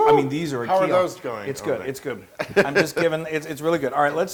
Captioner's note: laugh